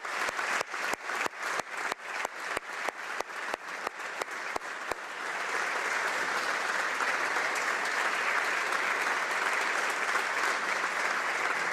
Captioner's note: applause